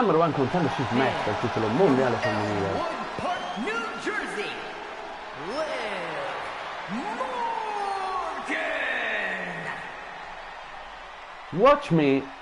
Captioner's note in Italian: Applauso